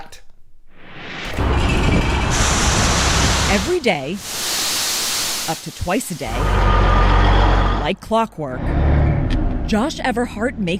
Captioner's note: voice-over